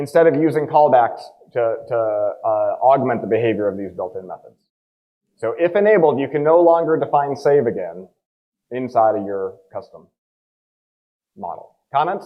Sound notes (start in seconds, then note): none